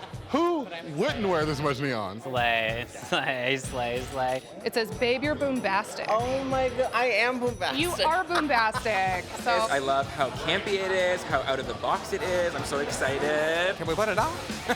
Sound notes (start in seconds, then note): 7.7 chuckles